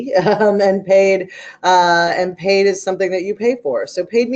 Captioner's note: laughing